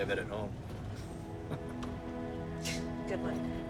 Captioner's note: chuckles